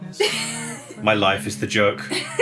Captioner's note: laughing